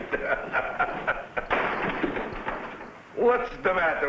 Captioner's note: door slamming